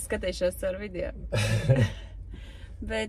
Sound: laughs

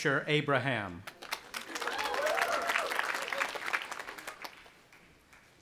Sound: audience applauding

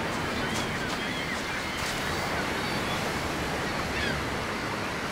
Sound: seagulls squawking

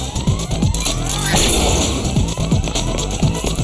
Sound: clank

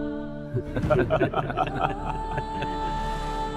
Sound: laughing

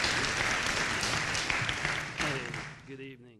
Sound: applause

